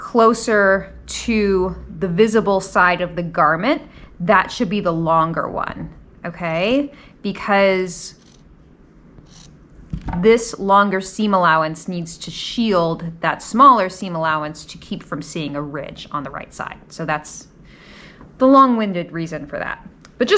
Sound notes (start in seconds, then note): 9.2 scissors snipping